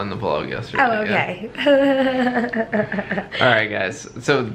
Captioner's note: giggles